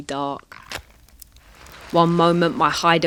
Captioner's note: match strikes